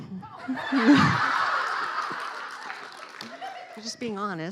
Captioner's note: laughing